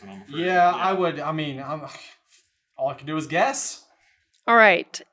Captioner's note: scoff